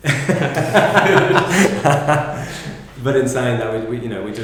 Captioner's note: laughter